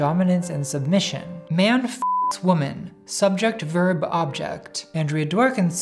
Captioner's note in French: bip